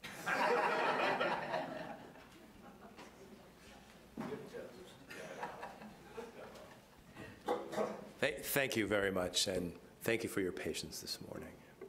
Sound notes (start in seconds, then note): 0.0 attendees laughing